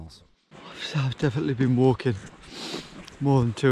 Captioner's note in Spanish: bosteza